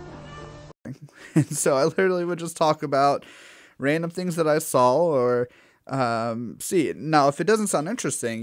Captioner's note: laugh